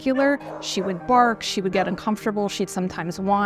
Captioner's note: barking